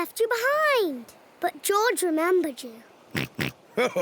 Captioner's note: oinks; chuckles